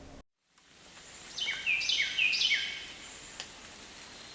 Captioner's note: birds chirping